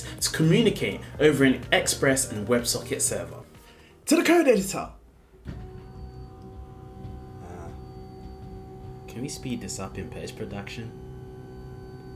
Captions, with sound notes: to communicate over an Express and WebSockets server. To the code editor. (machine humming) Can we speed this up in Pace Production?